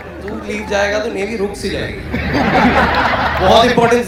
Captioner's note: loud Laughter